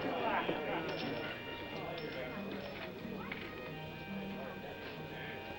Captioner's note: chattering